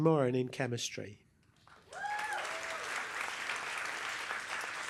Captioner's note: applause